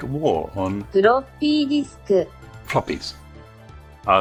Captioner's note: computer speaking in Japanese